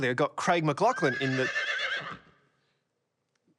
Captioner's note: horse neighs